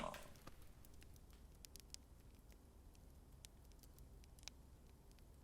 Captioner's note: flames crackling